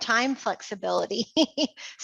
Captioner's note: laughs